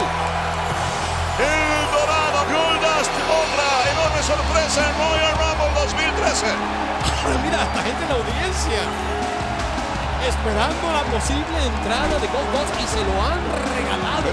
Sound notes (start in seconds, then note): 7.2 laugh